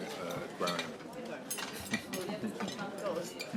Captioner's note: chuckles